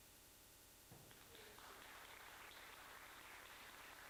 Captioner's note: audience applauding